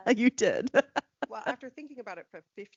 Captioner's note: laughing